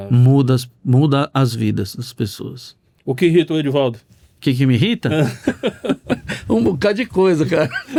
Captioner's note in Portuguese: risadas